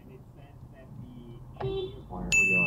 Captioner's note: firm beep